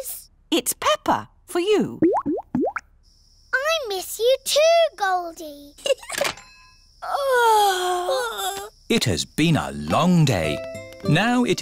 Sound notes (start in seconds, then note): 2.0 bubbling; 5.8 giggles; 7.0 both yawn